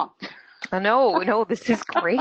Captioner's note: laughs